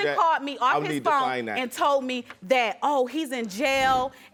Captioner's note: none